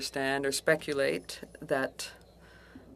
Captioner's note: speaking French